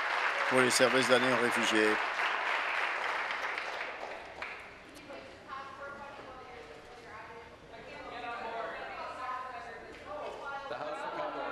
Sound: applause

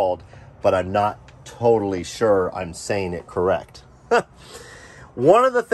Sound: chuckles

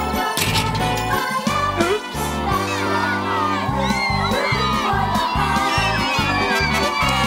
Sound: cheering

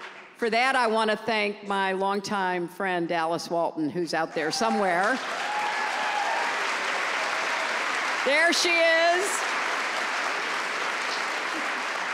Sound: applause

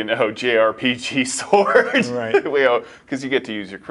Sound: laughs

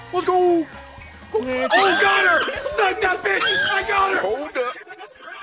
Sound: screeching

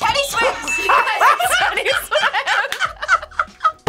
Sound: both laugh

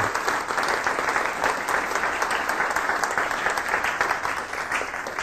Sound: applause

